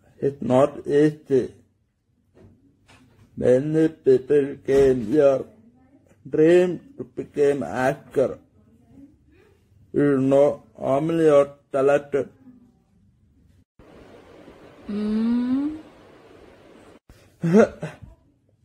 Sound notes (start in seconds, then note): 17.4 laugh